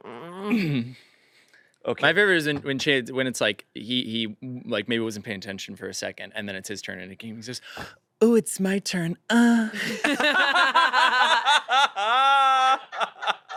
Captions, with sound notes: - My favorite is when Chanse, when it's like he like maybe wasn't paying attention for a second, and then it's his turn in a game and he's just, "Oh, it's my turn. Ah." (they laugh)